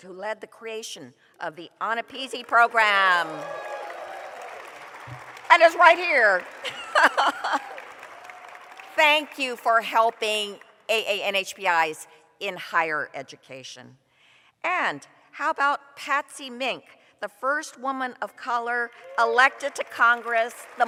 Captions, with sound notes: who led the creation of the AANAPISI Program. [applause] And is right here [laughs]. Thank you for helping AANHPIs in higher education. And how about Patsy Mink, the first woman of color elected to congress,